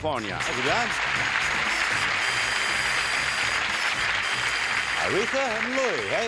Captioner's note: applause